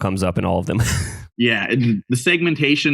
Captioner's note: laughs